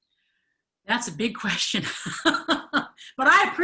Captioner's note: chuckles